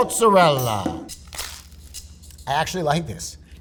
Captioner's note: upbeat music; sandwich rustling